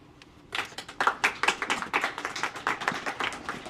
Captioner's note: applause